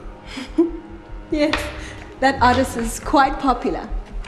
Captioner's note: chuckles